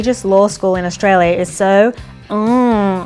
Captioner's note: groans